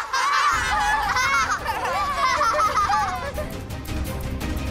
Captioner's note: laughing